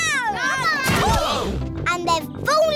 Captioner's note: all groan